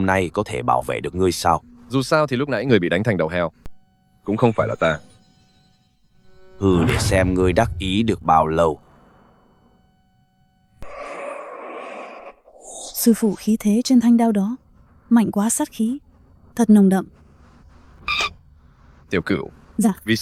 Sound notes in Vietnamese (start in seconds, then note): 10.8 rên rỉ